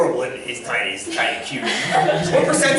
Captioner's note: laughter